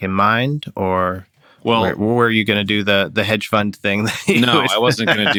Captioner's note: laughter